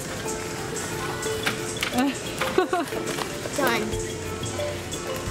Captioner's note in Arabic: يضحك